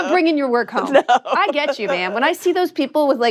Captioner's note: laughs